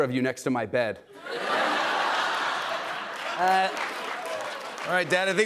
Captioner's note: laughter and applause